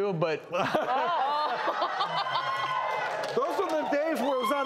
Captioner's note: laughing